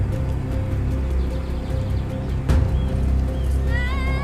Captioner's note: birds chirping; woman screaming